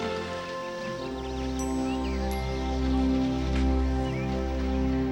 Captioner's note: birds chirping